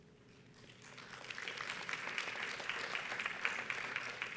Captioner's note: audience applauds